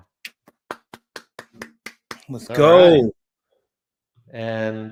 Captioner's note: clapping